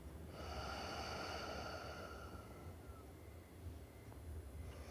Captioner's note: Ulysses breathing